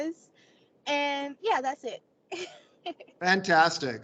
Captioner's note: chuckles